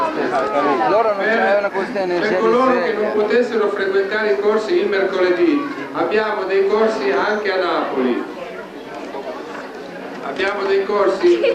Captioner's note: italian